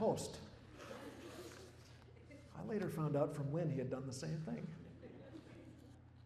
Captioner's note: laughter